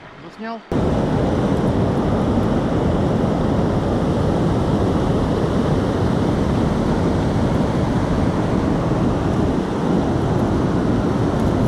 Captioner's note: waterfall noise